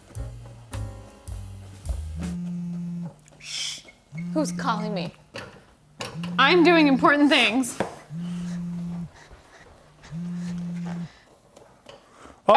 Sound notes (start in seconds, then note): 0.0 slow jazz music; 2.2 phone buzzing; 7.9 phone buzzing; 8.2 phone continues buzzing